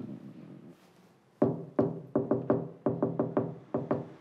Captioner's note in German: Rhythmisches Klopfen